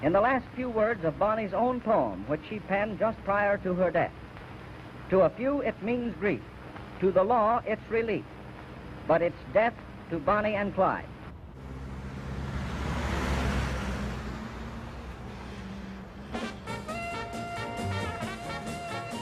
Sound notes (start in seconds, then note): 11.5 engine revs; 16.3 upbeat music